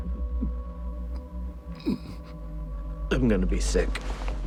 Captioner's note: Donnie grunting